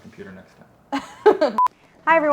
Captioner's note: laughs loudly